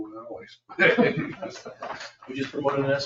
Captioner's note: laughter